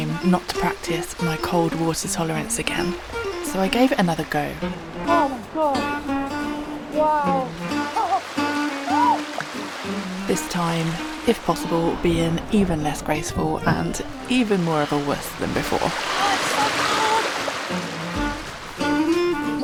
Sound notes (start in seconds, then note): 7.6 more shrieking